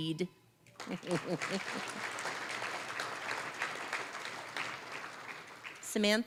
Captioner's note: applause